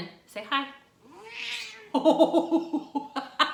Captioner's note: cat meows; laughs